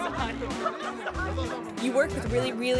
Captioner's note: laughs